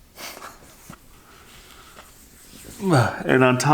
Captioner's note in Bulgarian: смее се